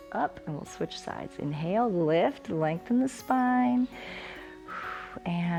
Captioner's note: inhales and exhales